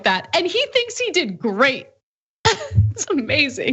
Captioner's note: laugh